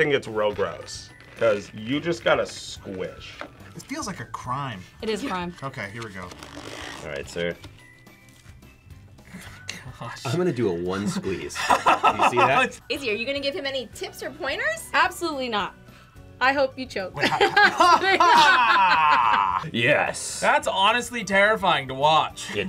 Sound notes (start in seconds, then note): 10.9 laughs; 17.2 laughs